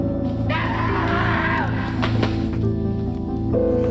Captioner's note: screaming